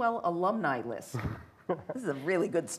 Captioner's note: laughing